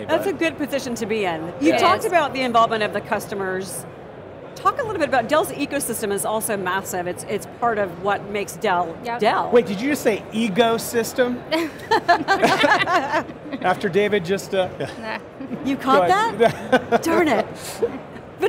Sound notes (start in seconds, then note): 11.6 laughing